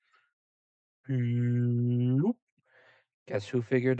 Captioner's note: stupid mouth noise